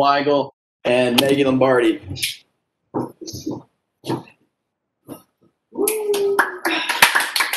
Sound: cheering

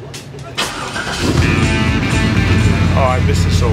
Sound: engine starts

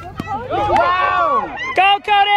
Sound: crowd cheering

